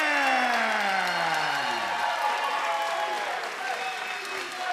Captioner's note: audience cheering